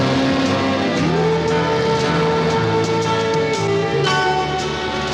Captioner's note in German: Der Motor des Autos startet